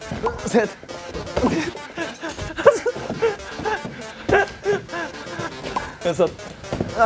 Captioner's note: tennis balls caught